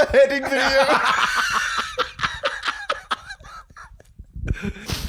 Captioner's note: both absolutely losing it